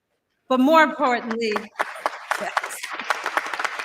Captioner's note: applause